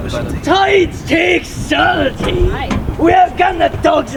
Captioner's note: yelling